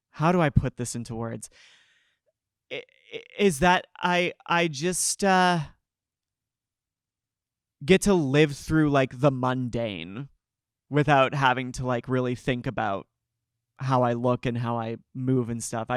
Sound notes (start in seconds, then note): none